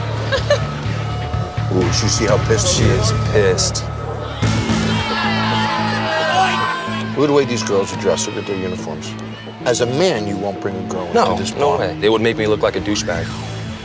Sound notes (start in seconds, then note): 0.2 laughs; 4.1 cheers